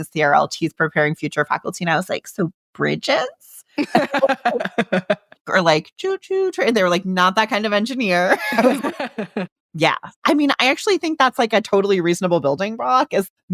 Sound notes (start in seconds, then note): 3.8 both laughing; 8.3 both laugh